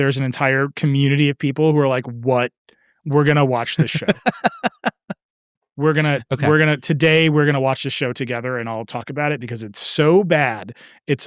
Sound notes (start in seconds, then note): 3.6 laughing